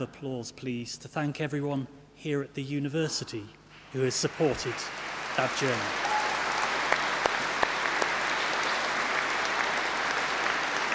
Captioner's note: applause